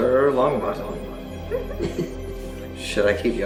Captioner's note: others laughing